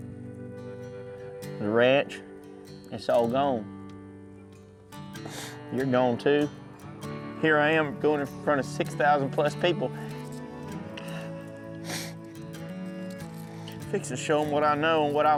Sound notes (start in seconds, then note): 5.2 sniffles; 11.8 crying, sniffling